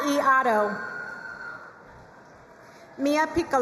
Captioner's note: crowd cheering and applauding